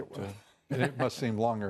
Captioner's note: laughter